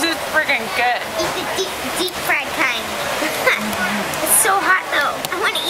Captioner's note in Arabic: يضحك